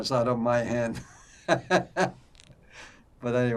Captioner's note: laughing